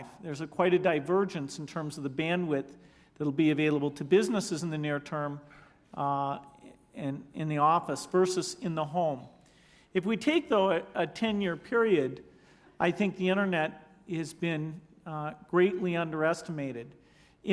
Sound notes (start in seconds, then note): none